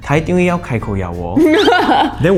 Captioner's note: laughter